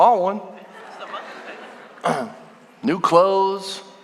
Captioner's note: congregation laughing